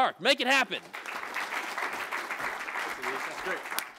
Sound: applause

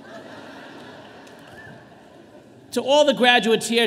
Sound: audience laughing

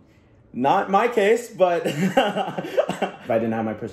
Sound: laughs

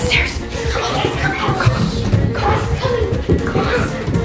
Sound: whispering

